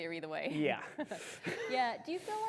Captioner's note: chuckles